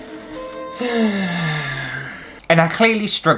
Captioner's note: sigh